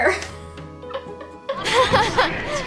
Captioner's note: laughs softly